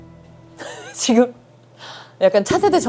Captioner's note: chuckles